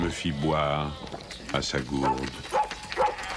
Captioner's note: yapping